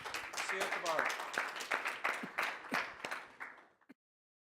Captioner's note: audience applauding